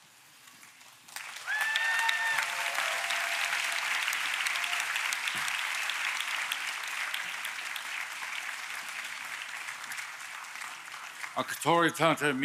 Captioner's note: applause